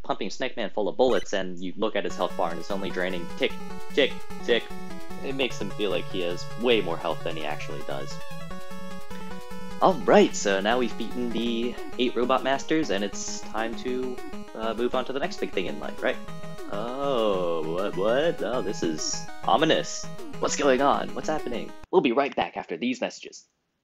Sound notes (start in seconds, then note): 16.4 noises of mock confusion